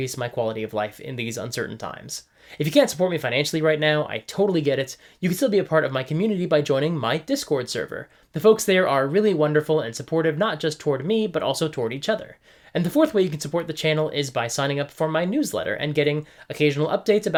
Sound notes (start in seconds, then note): none